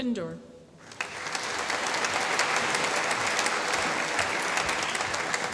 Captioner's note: applause